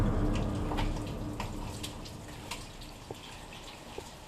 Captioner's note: dramatic, tense music; water trickling